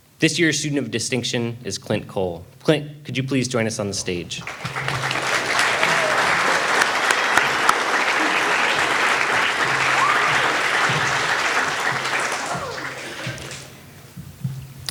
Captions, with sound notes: This year's student of distinction is Clint Cole. Clint, could you please join us on the stage? (all applauding)